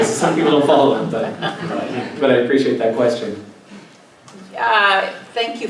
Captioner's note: laugh